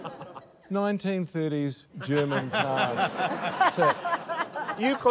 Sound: laughter

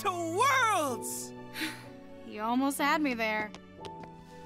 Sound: gasps

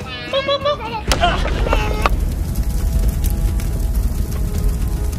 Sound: bomb exploding

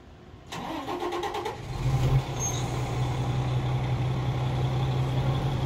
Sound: fire truck engine starts

